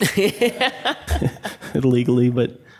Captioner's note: laughing